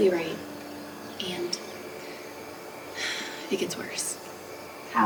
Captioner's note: sighs